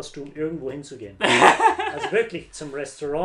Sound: laughs

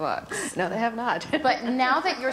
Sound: laughs

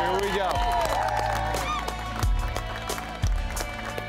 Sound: applause

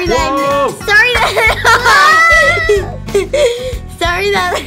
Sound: child laughing

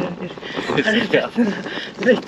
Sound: laughs

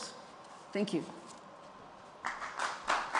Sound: applause

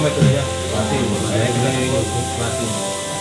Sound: people sounds

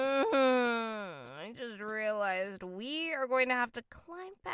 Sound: groans

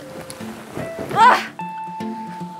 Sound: flap; phew

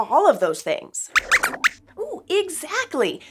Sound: squeaks squeaks

